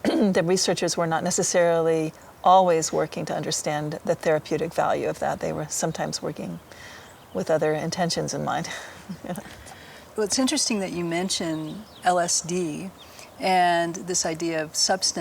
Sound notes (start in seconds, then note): 8.6 laughing